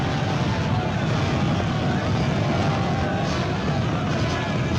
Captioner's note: flames crackling